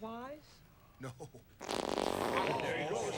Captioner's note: farting sound